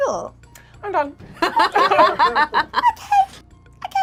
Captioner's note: group laughs